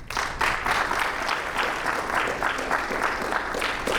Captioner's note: audience applauding